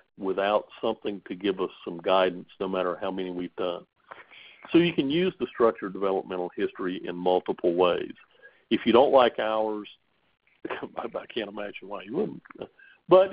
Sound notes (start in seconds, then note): 10.6 chuckles